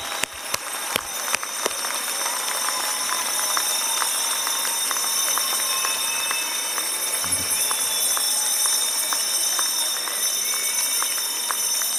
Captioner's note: applause